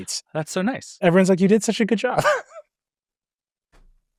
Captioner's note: laughs